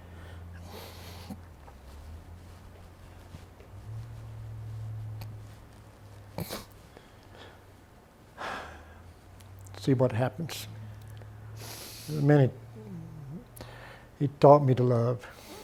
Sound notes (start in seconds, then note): 0.1 sniffling; 8.4 sighs